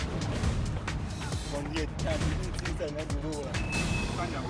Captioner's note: speaking native language